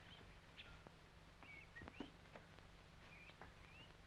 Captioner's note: birds chirping